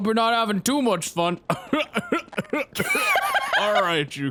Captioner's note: laughs